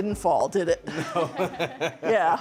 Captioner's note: chuckles